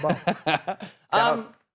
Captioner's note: laughing